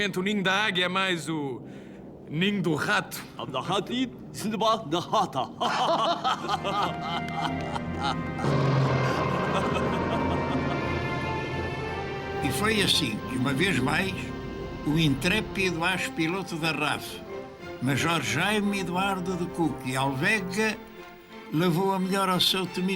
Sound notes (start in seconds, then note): 3.4 chuckles, music; 3.4 pseudo-Arabic gibberish